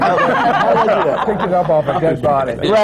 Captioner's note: laughter